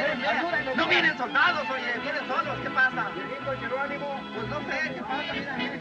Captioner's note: spanish Continues